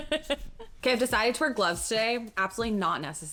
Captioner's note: laughs